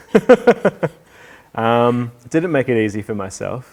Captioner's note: laughing